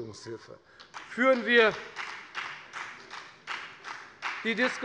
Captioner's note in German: Beifall bei der FDP